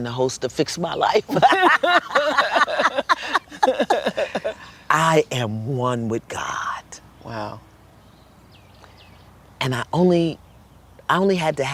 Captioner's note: laughter